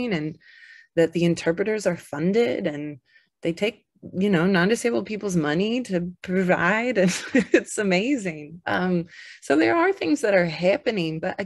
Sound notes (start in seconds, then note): 6.8 chuckles